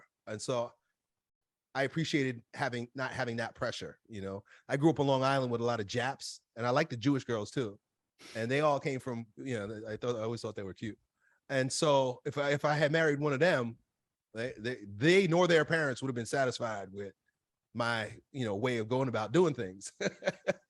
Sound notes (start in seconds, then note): 20.0 laughs